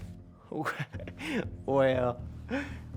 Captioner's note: chuckles